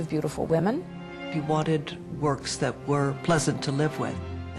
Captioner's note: voiceover